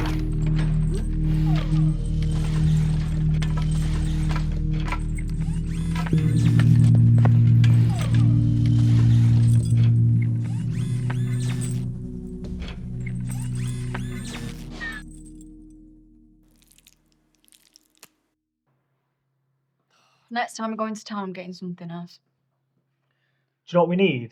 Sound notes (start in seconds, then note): 0.0 chains clinking; 0.1 Kellogg's limbs whirring; 16.4 beans slopping